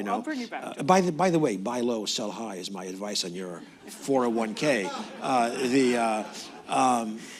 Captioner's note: laughter